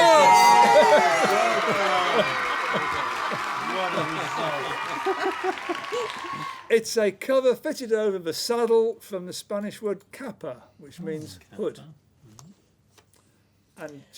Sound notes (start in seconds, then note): 0.9 shouts; 1.5 applause; 3.0 applause; 5.3 laughter